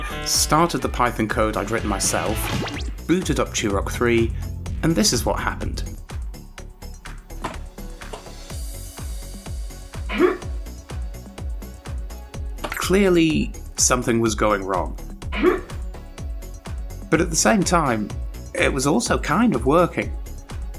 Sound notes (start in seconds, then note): 10.1 grunt; 15.3 grunt